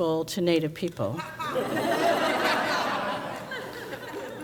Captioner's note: crowd laughs